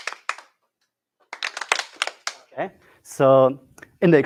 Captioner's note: clapping